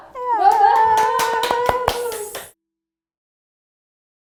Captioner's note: moms cheer and clap